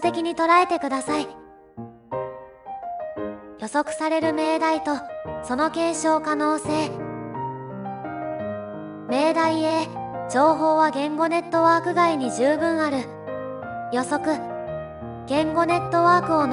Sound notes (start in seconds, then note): 10.9 covert speech